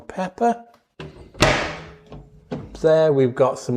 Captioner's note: cupboard doors clunking open and closed